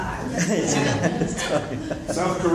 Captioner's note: laughter